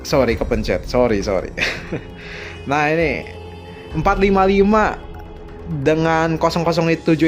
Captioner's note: laughs